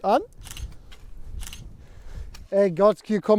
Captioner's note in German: Kameraklicken